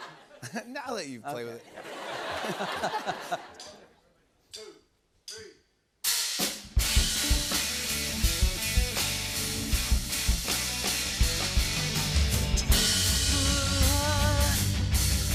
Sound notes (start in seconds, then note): 1.6 laughter